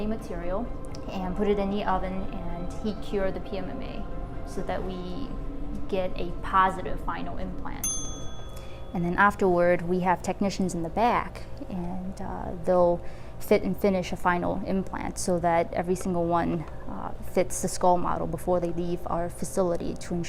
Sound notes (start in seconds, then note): 7.8 ding